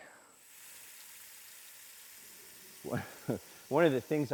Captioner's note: water spraying